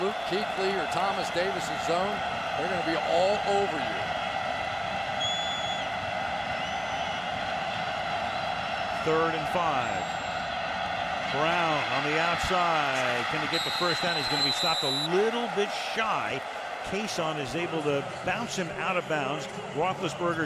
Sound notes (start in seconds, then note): 5.0 cheering